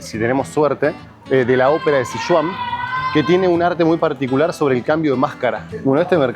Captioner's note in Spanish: grito